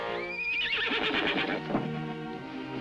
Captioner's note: horse neighs